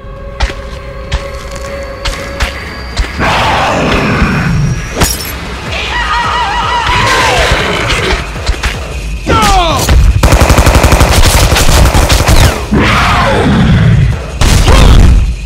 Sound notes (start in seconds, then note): 5.8 classic cartoon scream